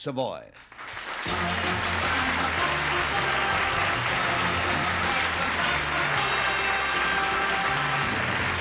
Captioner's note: applause